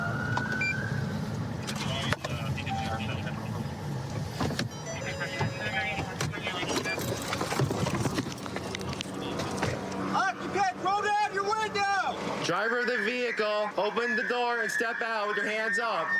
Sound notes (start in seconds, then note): 0.0 police siren; 4.6 car door chiming; 12.4 using loudspeaker